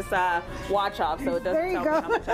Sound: laughter

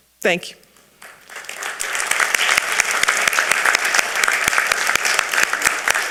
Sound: audience applauding

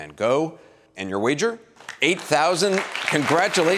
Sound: audience applauding

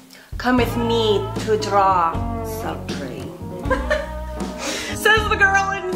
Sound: laughs

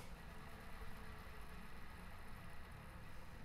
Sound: film rolling

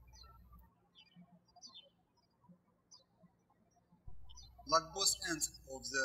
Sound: birds chirping

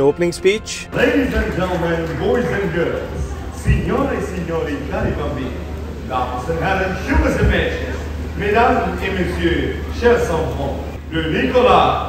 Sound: speaking in French and English

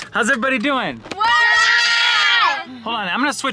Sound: children shouting

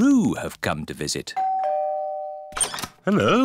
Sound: doorbell rings

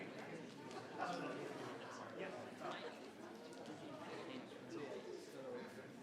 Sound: crowd chattering continues

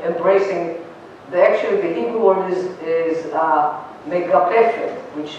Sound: non-english

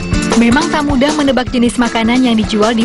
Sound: non-english speech

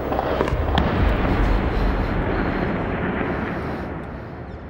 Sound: gunshots continue; rumbling, gasping

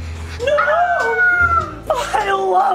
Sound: somber music; screaming

